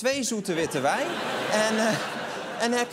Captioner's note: laughter